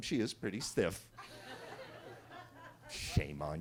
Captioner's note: attendees laughing